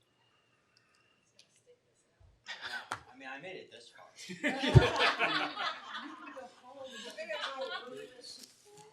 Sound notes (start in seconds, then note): 4.2 group laughs